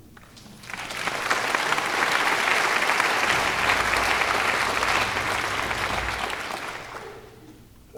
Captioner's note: clapping